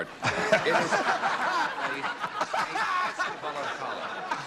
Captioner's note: laughter